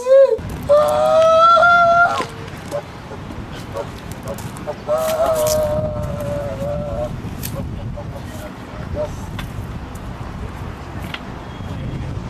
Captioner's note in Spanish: Conversaciones de fondo